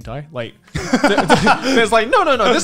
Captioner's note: laughing